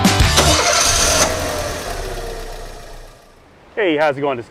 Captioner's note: engine rumbles